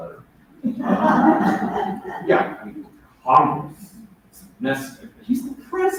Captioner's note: laughter